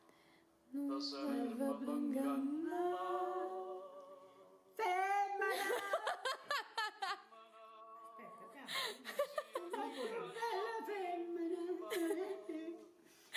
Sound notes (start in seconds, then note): 4.7 shouting; 5.5 I laugh